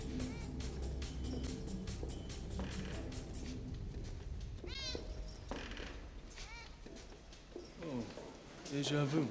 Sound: meow

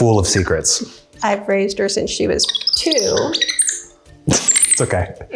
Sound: loud monkey noises

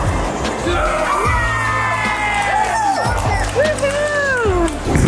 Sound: cheering

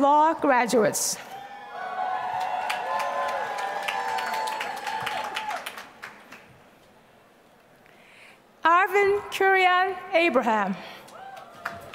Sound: applause

